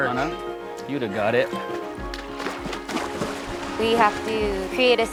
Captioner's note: water splashing